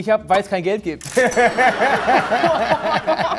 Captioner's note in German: Lachen